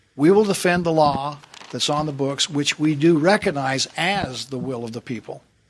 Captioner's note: none